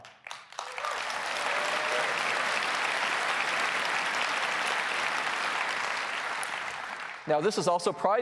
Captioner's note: applause